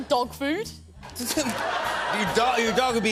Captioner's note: laughter